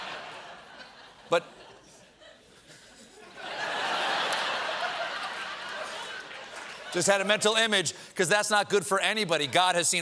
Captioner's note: laughter